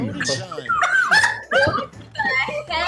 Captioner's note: group laughs